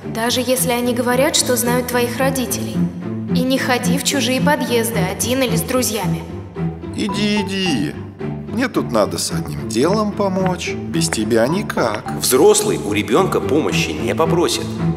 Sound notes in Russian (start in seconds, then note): 7.1 мужской голос за кадром